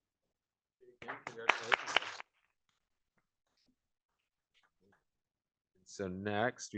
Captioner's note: applause